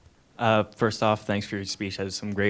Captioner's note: voiceover